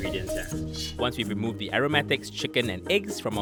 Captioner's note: voiceover